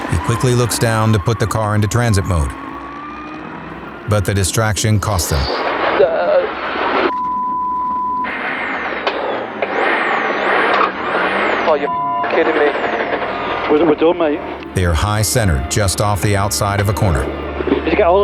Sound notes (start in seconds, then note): 5.6 car skids; 7.0 beep; 10.0 car revs; 12.9 beep